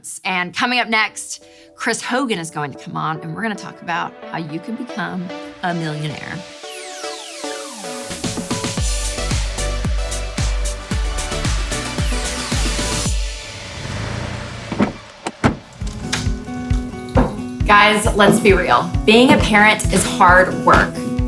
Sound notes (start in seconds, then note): 6.7 upbeat pop music; 13.9 shifter clicks; 14.5 latch clicks; 15.2 door knocks